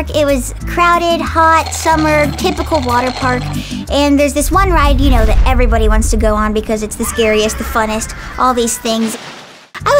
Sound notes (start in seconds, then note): 7.2 screaming